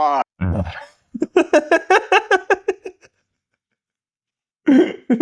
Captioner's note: laughter